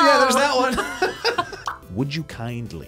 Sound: both laugh

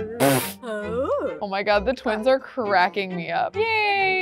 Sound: scoffs

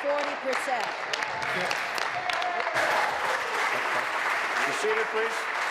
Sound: applause

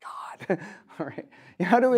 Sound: chuckles

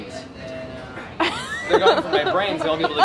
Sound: laughs

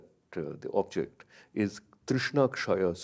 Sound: speaks in a foreign language

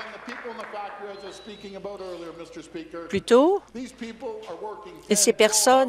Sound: applause

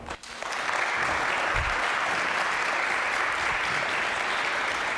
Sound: audience applauding

